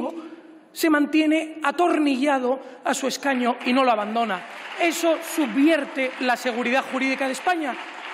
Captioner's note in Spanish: Aplausos